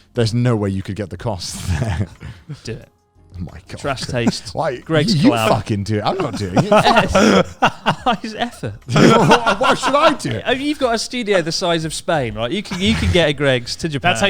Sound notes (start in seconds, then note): 6.0 laughs loudly